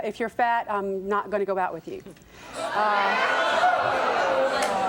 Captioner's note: audience jeering